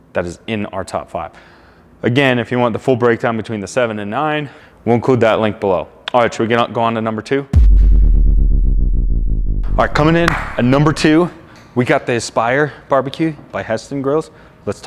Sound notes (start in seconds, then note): 7.5 descending tone; 9.6 clapping hands